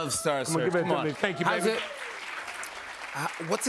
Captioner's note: applause